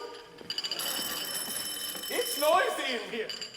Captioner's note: audience laughs